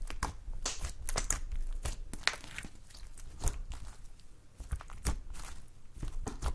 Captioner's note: slime poking noises